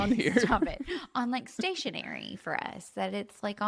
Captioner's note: laughs